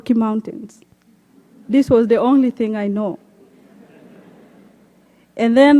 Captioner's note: laughter